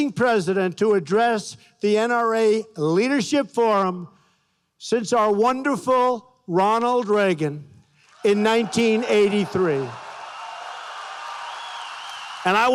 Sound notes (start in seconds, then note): 6.5 applause